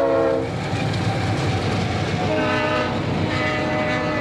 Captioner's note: train whirs